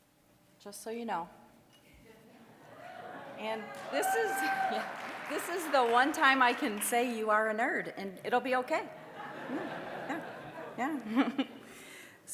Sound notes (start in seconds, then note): 2.7 audience laughing; 3.6 applause; 8.9 audience laughing